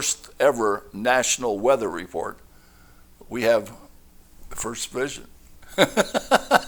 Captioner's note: chuckling